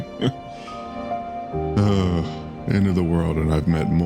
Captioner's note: laughs; amused Sigh